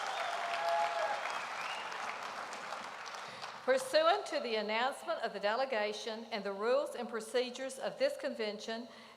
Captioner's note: applause